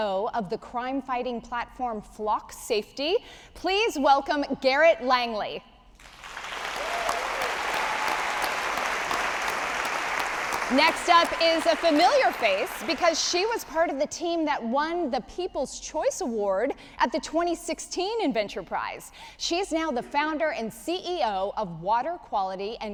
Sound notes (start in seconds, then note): 6.0 audience applauding